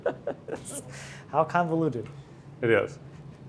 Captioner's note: laughs